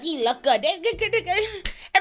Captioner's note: crying